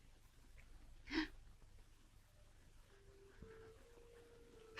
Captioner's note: Julie crying